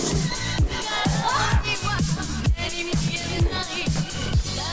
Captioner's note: Venus screaming; upbeat music